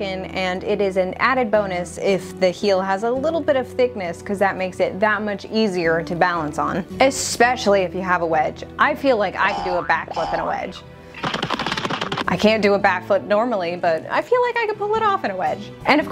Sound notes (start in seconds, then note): 9.4 cartoon Boing Sounds; 11.3 cartoon Running Sounds